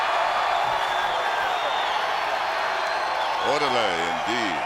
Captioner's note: crowd cheering